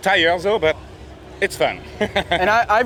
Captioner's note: laughs